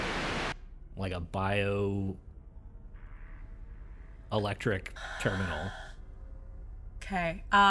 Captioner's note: static; sighs